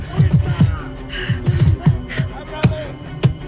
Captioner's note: gasps